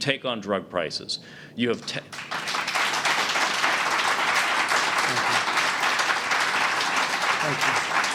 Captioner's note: applause